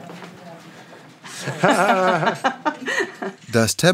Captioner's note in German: Gelächter